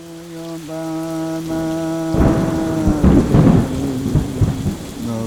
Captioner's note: thunder clapping; chanting in foreign language